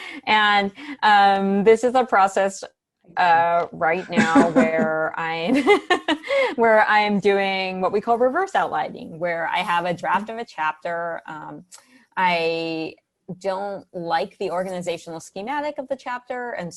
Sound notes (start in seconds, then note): 3.9 laughs